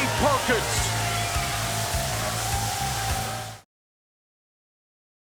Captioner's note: confetti whooshing; crowd cheering